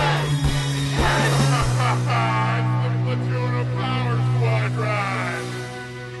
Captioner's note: laughter